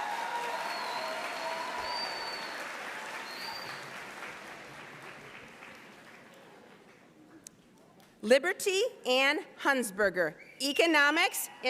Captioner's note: applause